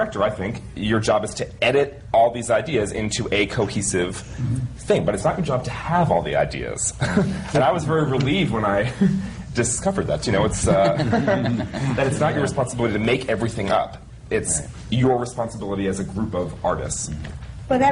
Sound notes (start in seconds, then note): 7.0 he laughs; 10.6 laughter